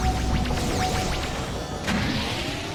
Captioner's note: none